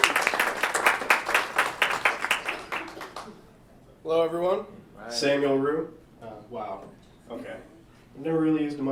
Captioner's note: applause